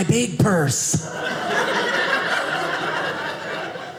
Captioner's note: audience laughing